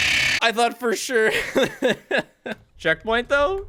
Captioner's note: laughs